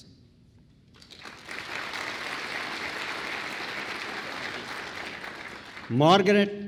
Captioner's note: applause